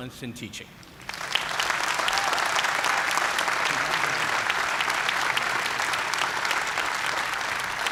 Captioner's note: applause